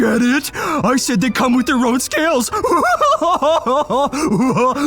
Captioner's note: laughs